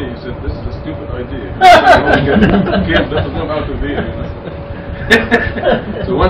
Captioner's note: Gülüyor